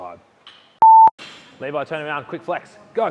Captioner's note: beep